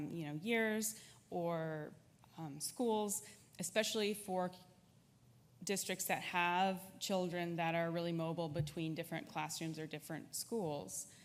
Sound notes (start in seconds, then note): none